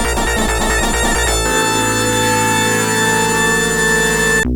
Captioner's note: long single tone, screaming heard